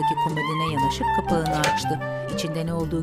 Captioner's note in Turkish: Kapak açılma sesi